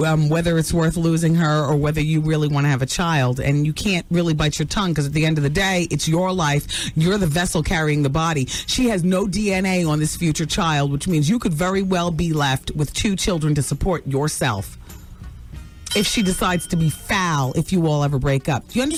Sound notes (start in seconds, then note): none